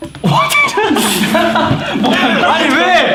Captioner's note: laughs